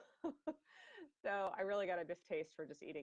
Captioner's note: laughing